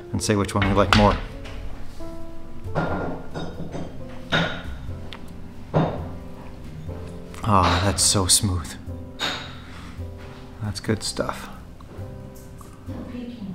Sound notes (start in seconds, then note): 3.0 bottles thud